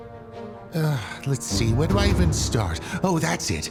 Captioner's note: sighs